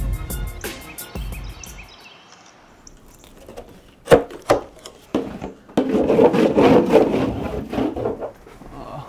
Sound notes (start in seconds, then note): 5.1 loud rubbing